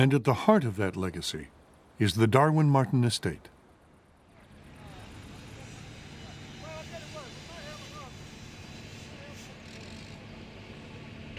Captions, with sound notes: And at the heart of that legacy is the Darwin Martin estate. (machines rumbling) (shouting)